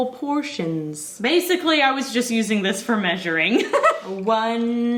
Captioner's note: giggles